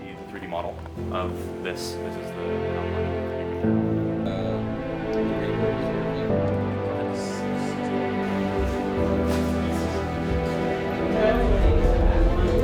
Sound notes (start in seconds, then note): 2.9 hopeful music; 4.2 makers murmuring